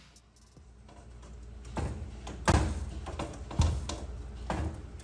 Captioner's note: lizard banging